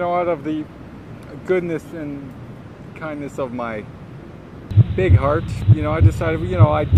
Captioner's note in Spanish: Heart beat sonido